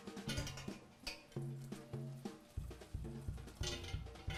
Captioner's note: metal clinking